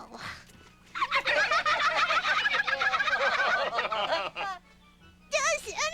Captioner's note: laughing